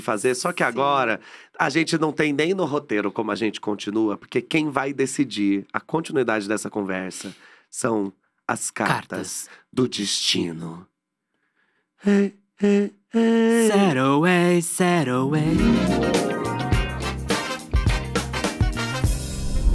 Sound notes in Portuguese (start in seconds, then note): 11.9 cantarolam